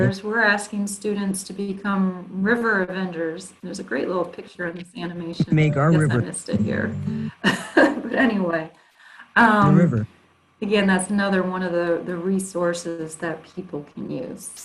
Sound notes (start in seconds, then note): 9.6 laughs